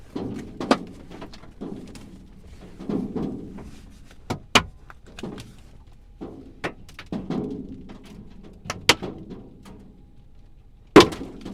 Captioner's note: hail continues